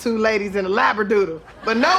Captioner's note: laughter